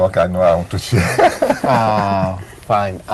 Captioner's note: chuckles